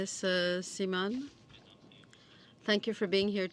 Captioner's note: speaking French